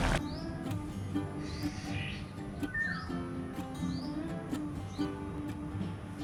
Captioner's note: birds chirping